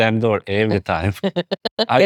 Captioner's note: laughing